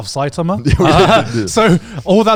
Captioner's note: chuckles